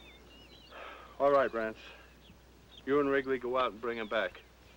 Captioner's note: sighs